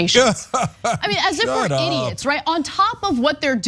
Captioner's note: laugh